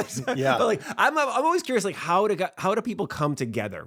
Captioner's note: laughs